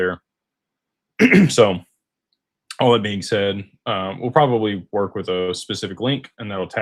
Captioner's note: clears throat